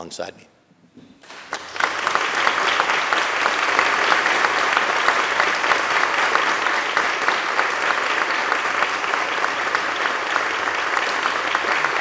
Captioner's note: applause